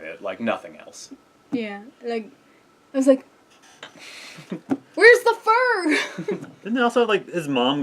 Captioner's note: laugh